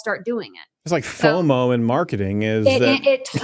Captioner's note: laughs